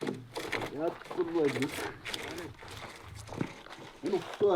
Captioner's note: foreign spoken audio